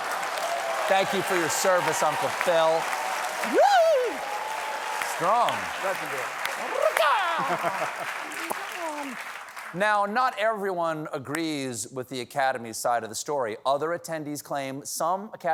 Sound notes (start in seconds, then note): 8.3 applause